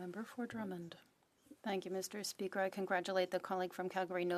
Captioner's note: speaking French